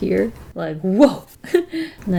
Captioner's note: laughs